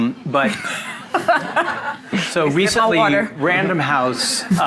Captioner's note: audience laughing